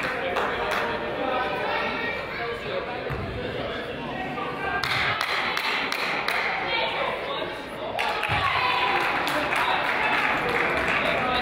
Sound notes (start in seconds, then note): 5.2 crowd applauds; 5.2 person claps